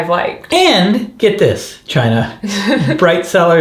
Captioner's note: laughs